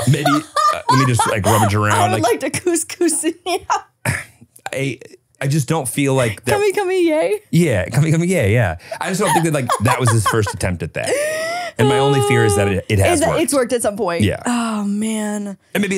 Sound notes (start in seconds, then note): 0.0 screams and laughs; 4.7 laughs